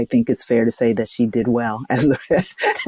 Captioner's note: laughs